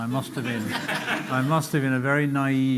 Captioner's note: laughter